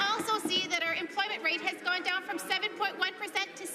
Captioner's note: some Applause